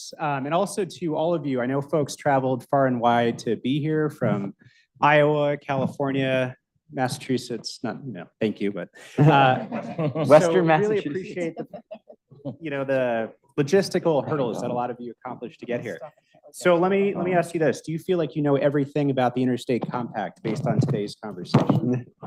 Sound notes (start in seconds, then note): 9.2 audience laughs